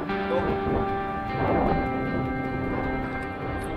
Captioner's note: mega wind